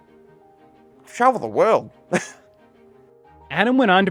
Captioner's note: chuckles